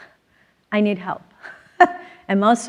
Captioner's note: laughs